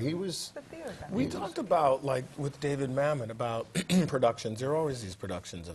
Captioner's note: cough